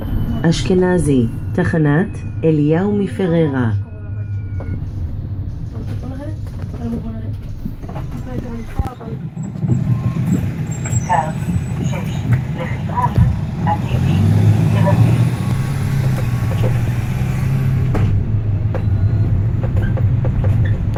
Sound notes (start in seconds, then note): 7.6 doors Opening; 15.3 doors Closing